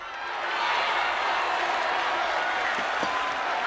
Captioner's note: crowd cheering